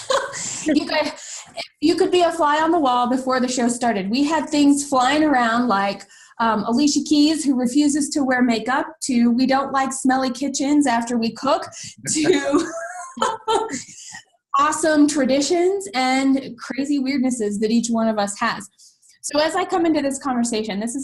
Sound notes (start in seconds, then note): 12.0 laughter from all